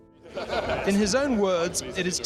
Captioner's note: William laughing